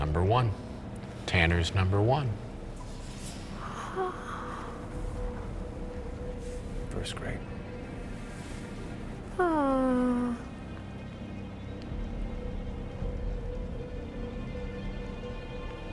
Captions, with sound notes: Number one. Tanner's number one. First grade. (moans) (eerie music)